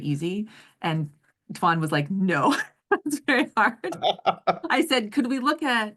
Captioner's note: laugh